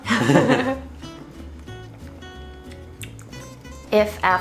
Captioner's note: together laughing